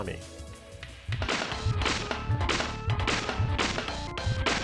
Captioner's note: whip lashing